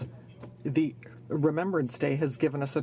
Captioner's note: speaking in french